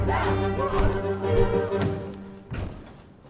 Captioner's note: punch thud